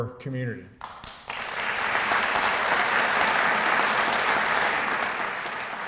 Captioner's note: applause